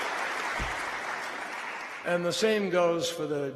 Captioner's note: applause